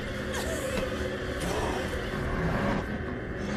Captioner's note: grunting